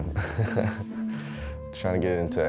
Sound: laughs

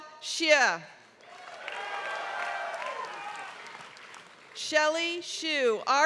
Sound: applause

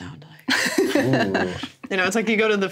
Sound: everyone laughs

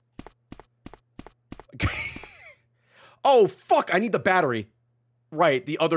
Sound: laughs

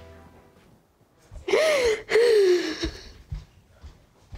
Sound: sobbing

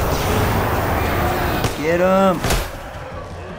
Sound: flames whoosh; grunts; Bloaters bellow

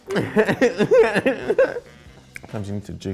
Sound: chuckles nervously

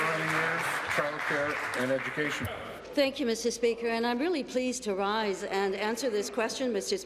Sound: applause

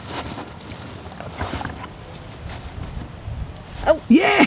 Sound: Kobe chews

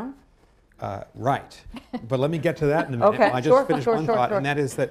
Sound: laughter

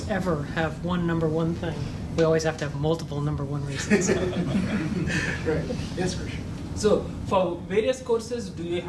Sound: laughter

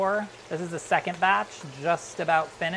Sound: sizzling

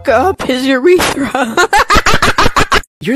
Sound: menacing laughter 💀

